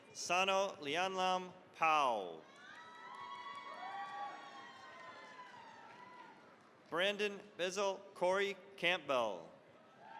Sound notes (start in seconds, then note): 2.4 cheering, applause